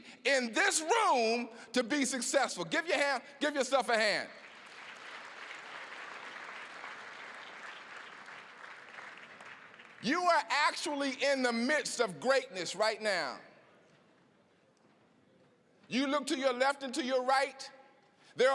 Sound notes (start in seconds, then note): 4.0 applause